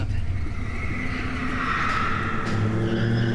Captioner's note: tires screeching